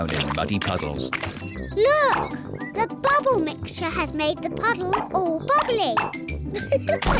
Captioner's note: laughs